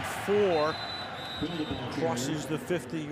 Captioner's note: whistles